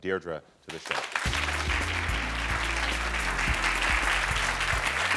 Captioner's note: audience clapping